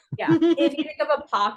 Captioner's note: laughing